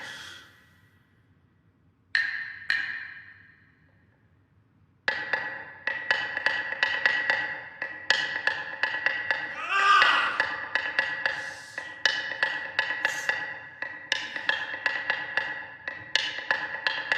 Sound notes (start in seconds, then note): 9.5 shouts